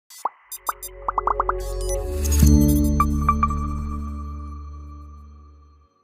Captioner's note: atmospheric chiming; synthetic popping